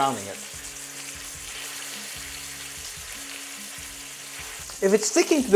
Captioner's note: sizzling sound